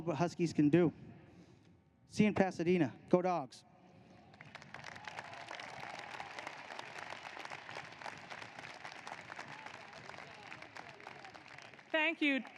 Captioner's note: applause